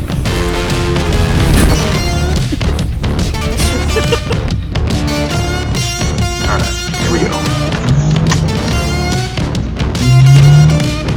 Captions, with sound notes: (laughter) Alright, here we go.